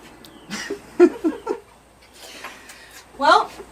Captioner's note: both laughing